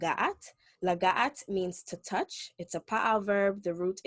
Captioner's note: speaking Hebrew